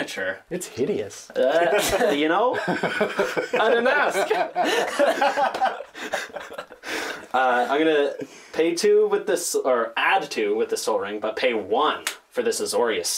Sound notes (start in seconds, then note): 1.3 laughs; 5.6 laughter